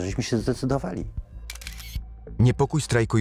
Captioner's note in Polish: odgłos robienia zdjęcia